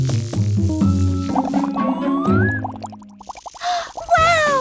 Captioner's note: bubbling; gasps